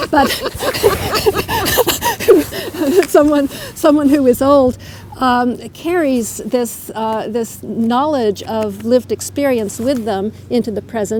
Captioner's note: laughter